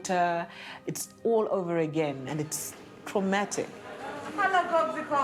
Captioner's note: indistinct chatter